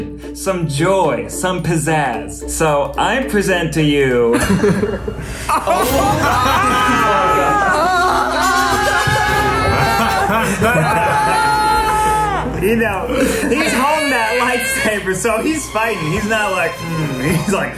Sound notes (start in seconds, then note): 4.1 tense horror music; 4.3 group laughs; 5.7 group yells